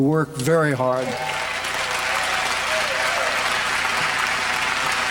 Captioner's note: applause